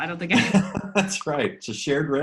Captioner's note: laughs